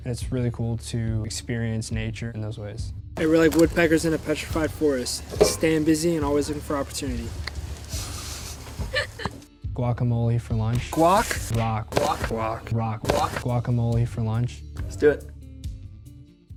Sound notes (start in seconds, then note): 8.6 members laugh